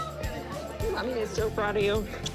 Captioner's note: kisses